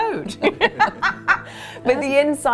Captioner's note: laughing